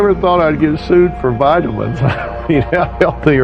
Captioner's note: laughghghing